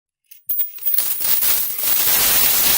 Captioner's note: rustling Sound